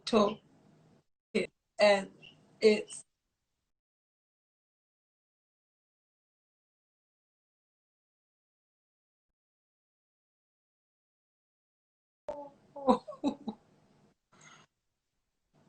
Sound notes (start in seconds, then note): 12.8 laughs